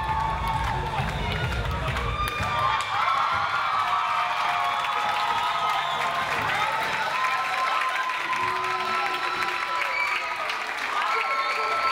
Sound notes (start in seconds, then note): 2.8 audience applauds